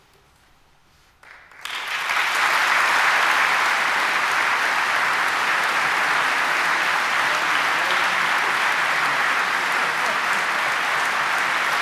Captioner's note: applause